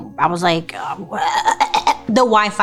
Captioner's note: fakes choking